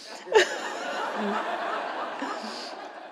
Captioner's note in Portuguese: risos da plateia